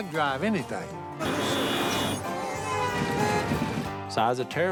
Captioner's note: horns honking